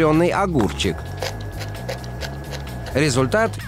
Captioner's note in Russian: жуёт шумно